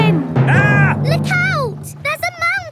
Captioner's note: captain dog screams